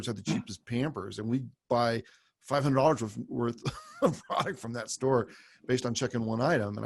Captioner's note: laughs